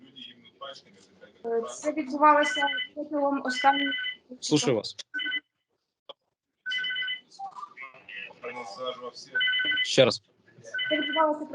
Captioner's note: communication interference